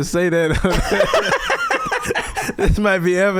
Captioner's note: laughing